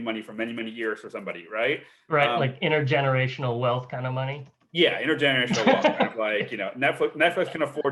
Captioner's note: laughs